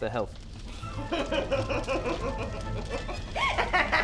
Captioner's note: evil Nixie giggle; evil laugh